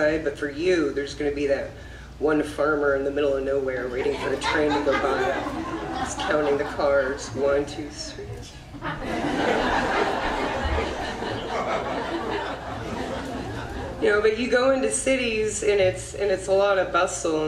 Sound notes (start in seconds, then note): 3.8 audience laughs